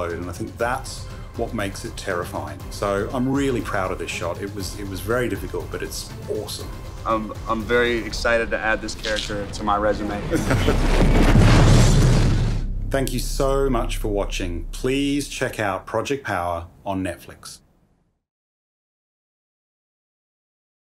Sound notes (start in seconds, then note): 10.1 chuckling; 11.6 rubble clattering